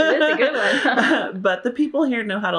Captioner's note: laughter